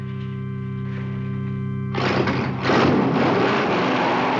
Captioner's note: revving engine